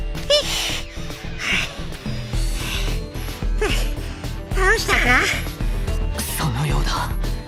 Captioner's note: pant, pant…